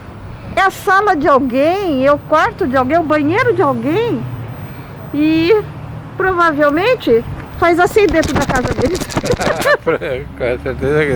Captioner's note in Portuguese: risos